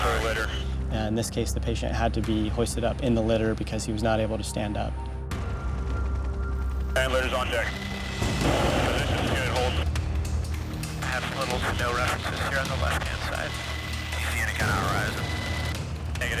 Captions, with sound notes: And this case the patient had to be hoisted up in the litter because he was not able to stand up. (radio chatter)